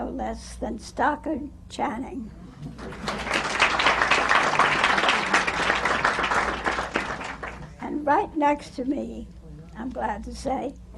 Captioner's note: applause